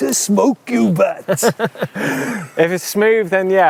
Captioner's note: laughs